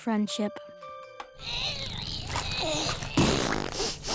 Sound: grunting

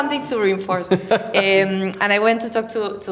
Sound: laughing

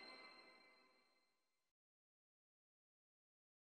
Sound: silence

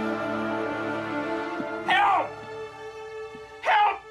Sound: shouts

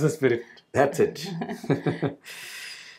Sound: both Laugh

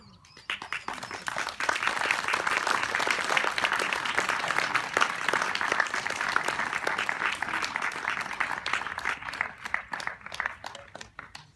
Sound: applause

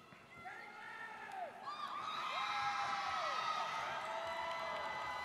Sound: students cheering

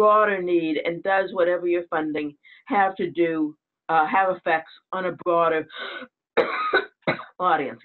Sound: coughs

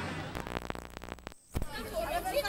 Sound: static buzz noise

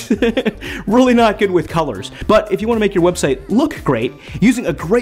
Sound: laughs

